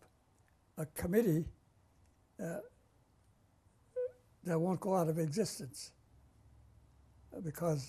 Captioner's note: pauses for 3 seconds